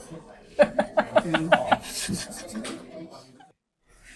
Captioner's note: hearty laughter